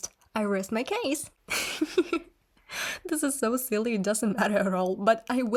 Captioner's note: laughs